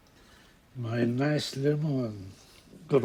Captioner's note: speaking foreign language